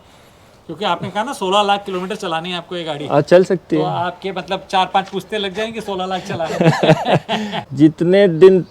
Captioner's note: laughter